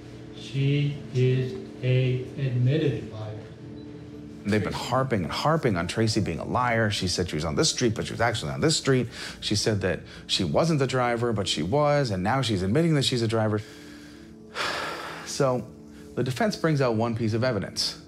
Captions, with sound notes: she is a admitted liar. - They've been harping and harping on Tracy being a liar, she said she was on this street but she was actually on the street, she said that she wasn't the driver but she was, and now she's admitting she's a driver... (heavy sigh) So the defense brings out one piece of evidence,